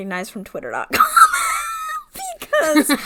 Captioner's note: laughs